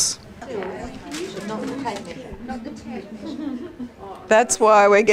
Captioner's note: audience chatter